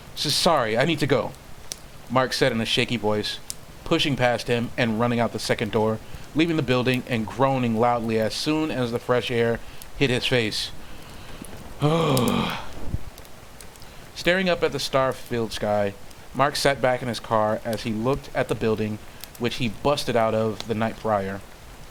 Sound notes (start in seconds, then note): 11.8 groan